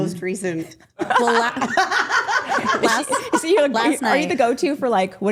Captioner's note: group laughing